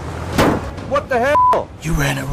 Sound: boom

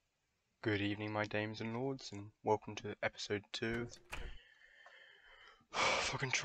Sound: sigh

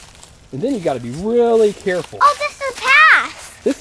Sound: voiceover

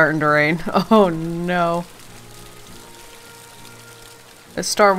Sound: laughs

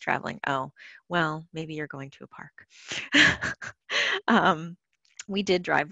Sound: laughs

